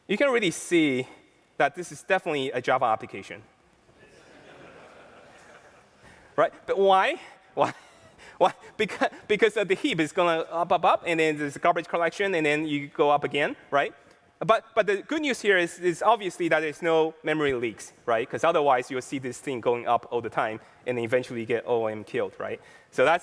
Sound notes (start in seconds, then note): 4.0 laughter